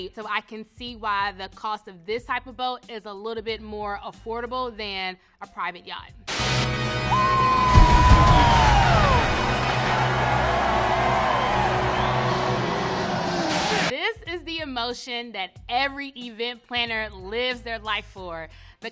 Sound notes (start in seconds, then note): 7.1 man whoops; 8.4 confetti cannons explode; 8.4 crowd cheering